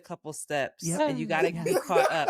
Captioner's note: laughing